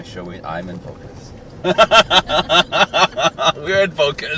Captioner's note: laughing